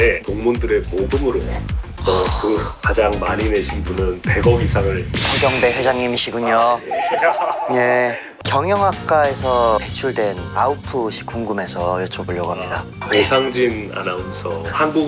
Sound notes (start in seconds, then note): 2.0 gasp!; 6.6 embarrassed laugh of a Chairman